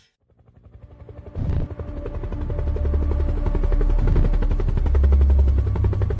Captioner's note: helicopter propeller spinning; dramatic music